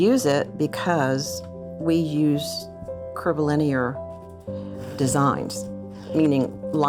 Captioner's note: none